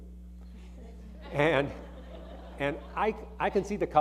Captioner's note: audience laughing